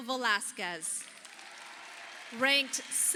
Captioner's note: audience applauding